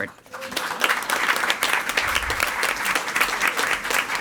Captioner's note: all applauding